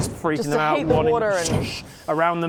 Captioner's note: swoosh